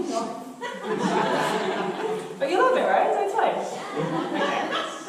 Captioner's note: audience laughter